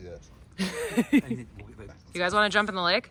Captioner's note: laughs